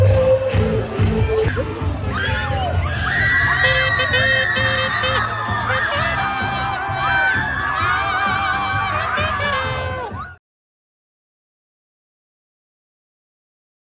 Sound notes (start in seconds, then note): 3.4 cheering